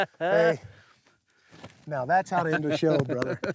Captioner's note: laughs